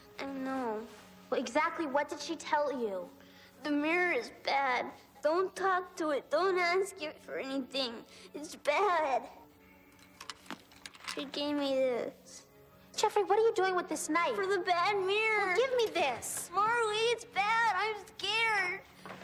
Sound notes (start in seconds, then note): 9.9 knife rattling